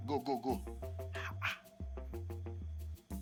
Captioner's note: whispers